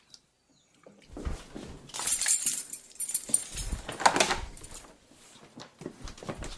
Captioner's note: wiping hands, grabbing keys, door opening